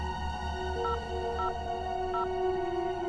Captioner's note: beeping